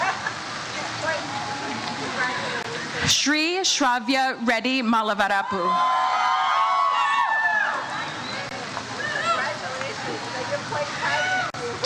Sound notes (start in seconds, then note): 5.4 audience cheers